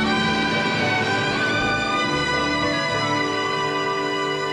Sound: none

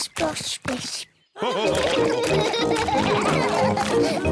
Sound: all laughing

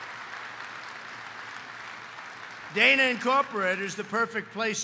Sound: applause

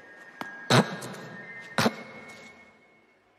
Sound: snorts

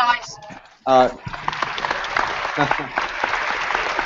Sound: applause

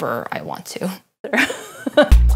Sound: laughs

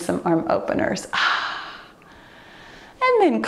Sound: exhales loudly

